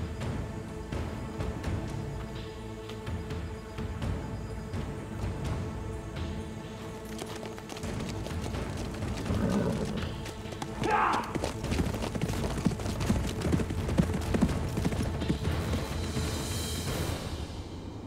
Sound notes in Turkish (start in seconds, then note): 9.1 At kişneme sesi; 11.9 At nalı sesleri; 11.9 Müzik - Gerilim